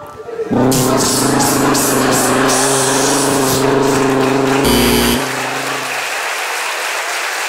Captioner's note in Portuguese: campainha